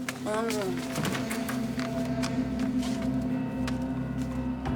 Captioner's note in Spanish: sonido al abrir la puerta